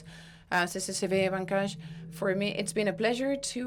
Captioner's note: audio blurs